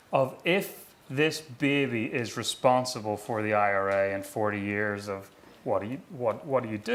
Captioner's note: none